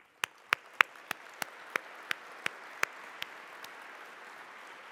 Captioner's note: applause